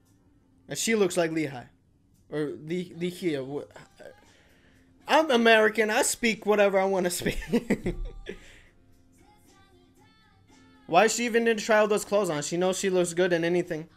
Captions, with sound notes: And she looks like Lee Hi. Or, Lee Hi, uh... I'm American, I speak whatever I wanna spea- (laughs) Why is she even going to try on all those clothes? She knows she looks good in anything.